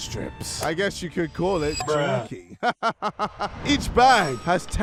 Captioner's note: laughs